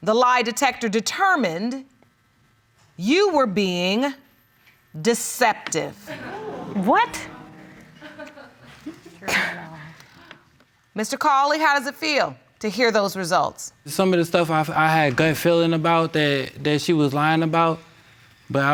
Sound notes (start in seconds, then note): 6.1 audience gasps; 9.4 scoffs